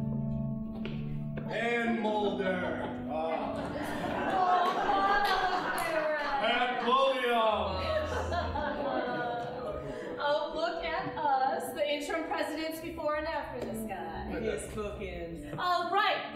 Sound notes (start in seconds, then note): 3.2 audience laughing; 8.6 audience laughing